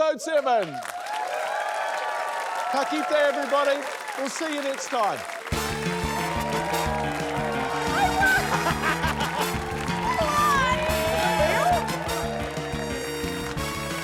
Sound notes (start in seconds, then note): 0.8 cheering, applause; 6.3 cheering, applause; 8.8 laughs; 11.2 gasps